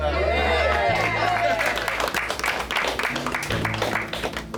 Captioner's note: clapping